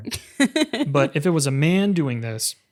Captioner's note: laughs